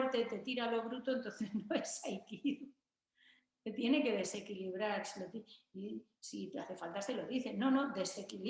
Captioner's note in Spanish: risas